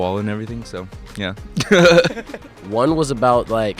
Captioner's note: laughs